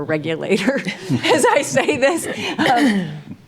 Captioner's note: laughs